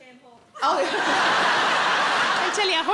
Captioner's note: audience laughs